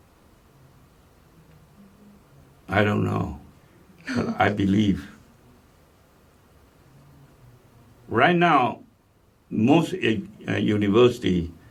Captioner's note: laughs